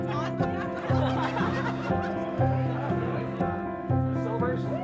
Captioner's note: light piano music; students laughing, talking